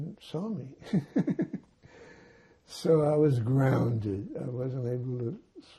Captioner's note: laughing